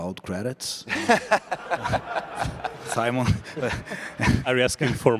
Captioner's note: laughter